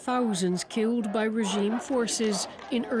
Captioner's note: chanting